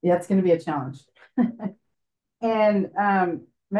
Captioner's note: laughs